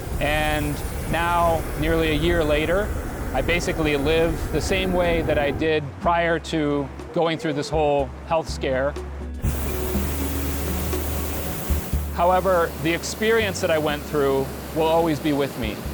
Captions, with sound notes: AND NOW, NEARLY A YEAR LATER, I BASICALLY LIVE THE SAME WAY THAT I DID PRIOR TO GOING THROUGH THIS WHOLE HEALTH SCARE. [ FIRE BLASTING ] HOWEVER, THE EXPERIENCE THAT I WENT THROUGH WILL ALWAYS BE WITH ME.